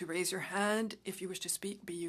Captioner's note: speaking French